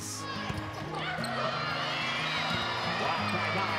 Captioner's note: crowd cheers